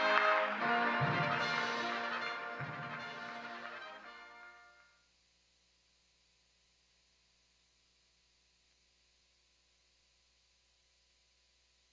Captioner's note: applause